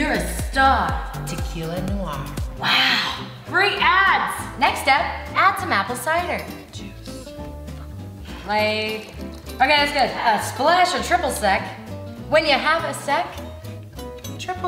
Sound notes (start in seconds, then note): 6.5 whispers